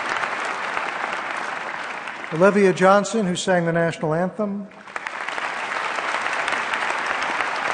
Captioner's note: applause